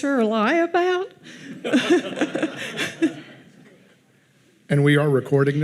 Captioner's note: audience laughing